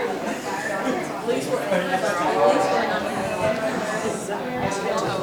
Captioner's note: chatter